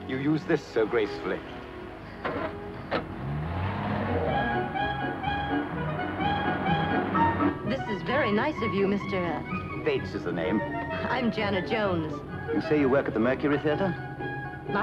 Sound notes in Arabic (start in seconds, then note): 2.3 صوت محرك السيارة; 4.6 موسيقى أوركسترالية مبهجة